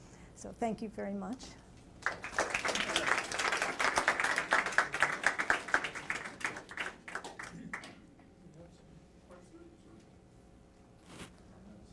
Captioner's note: applause